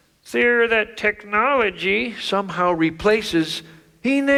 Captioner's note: none